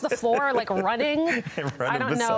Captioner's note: both laughing